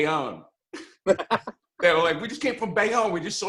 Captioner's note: laughs